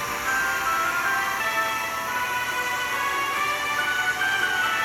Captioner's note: drill press buzzing